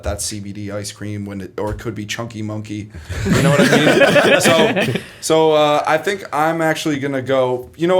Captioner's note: laughter